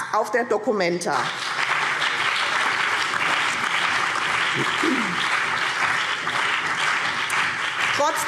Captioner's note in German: Beifall BÜNDNIS 90/DIE GRÜNEN und CDU